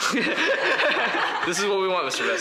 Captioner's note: all laugh